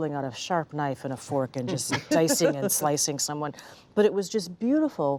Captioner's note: laughter